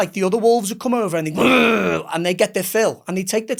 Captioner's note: imitates growl